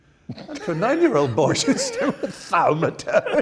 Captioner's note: laughs